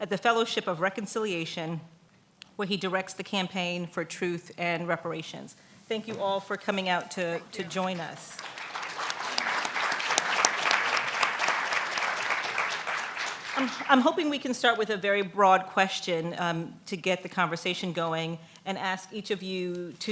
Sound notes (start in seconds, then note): 7.4 clapping